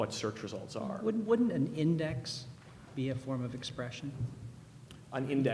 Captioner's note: voiceover